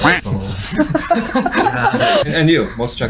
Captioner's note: laughing